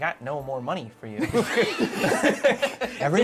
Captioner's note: laughter